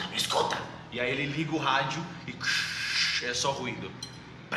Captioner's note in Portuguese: chiado